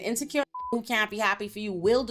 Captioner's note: beep